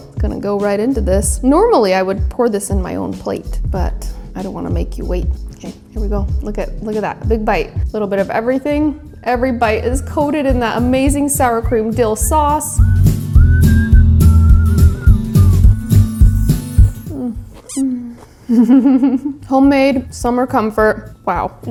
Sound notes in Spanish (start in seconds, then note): 13.2 música optimista; 18.4 risas